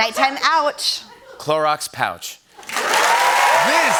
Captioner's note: cheers and applause